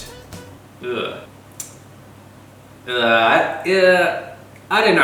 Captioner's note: wretches